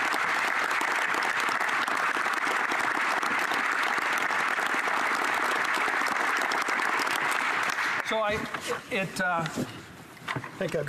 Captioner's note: applause